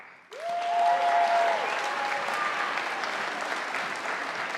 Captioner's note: audience applauding